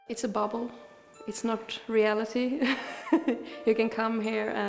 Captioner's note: chuckles